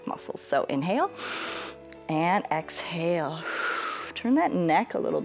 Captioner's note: exhales; inhales